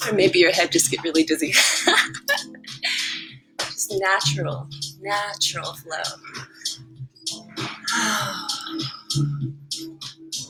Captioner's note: laughing; exhale